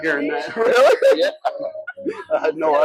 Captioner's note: laughs